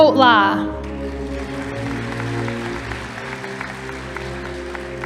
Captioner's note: audience applauding